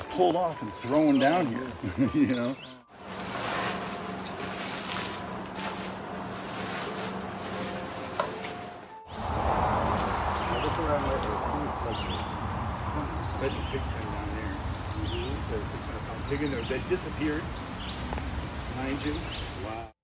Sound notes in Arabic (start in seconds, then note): 3.0 حفيف الورق